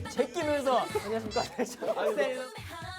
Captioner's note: bursts out laughing